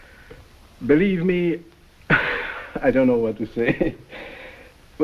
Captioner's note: chuckles